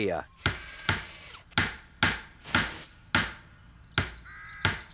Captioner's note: hammering